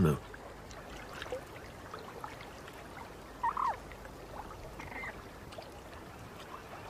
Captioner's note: water babbling